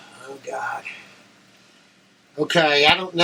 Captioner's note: exhales loudly